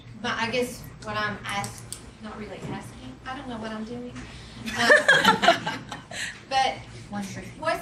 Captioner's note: laughs